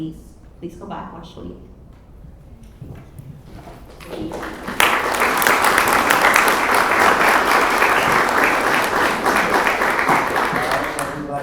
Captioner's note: applause